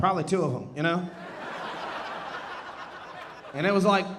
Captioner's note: audience laughing